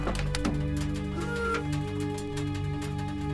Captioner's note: door creaks